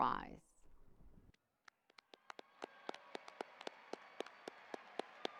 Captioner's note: audience applauding